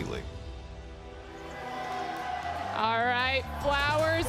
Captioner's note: cheering crowd fades in